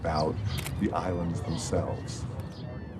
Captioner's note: camera clicking